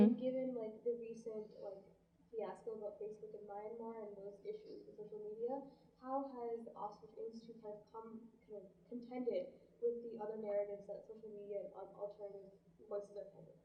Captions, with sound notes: And given the recent fiasco about Facebook (murmurs) and most issues with social media, how has the (murmurs) contended with the other narratives that social media (murmurs)